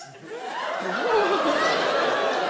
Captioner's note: audience laugh